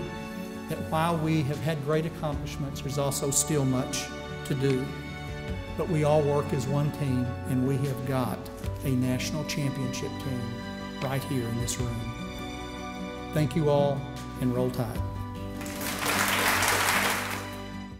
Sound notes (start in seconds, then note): 15.5 audience claps